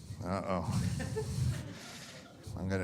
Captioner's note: audience laughing